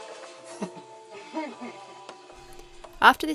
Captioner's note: laughs